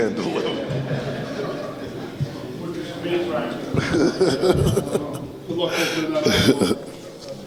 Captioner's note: crowd chattering; laughter